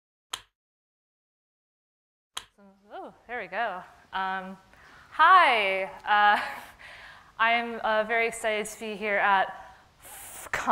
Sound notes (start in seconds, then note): 0.0 click; 2.4 click